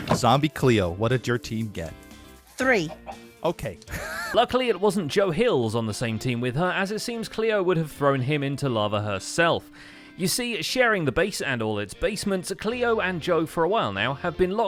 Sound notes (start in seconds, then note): 3.9 laughs